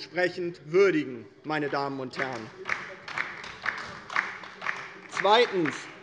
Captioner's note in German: Beifall bei der LINKEN